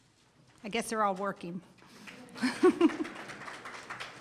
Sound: audience applauds; chuckles

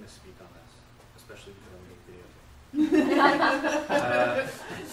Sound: audience laughs

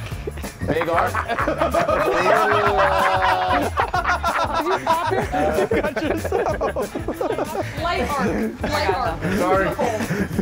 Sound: laugh

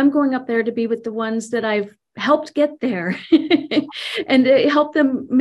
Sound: laughs

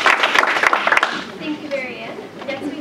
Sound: applause

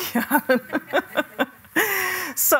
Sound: laughter

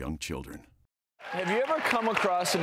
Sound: audience clapping

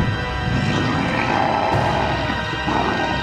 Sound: growling

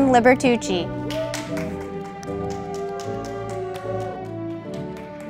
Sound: audience applauding

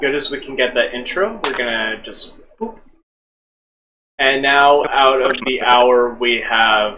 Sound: poof

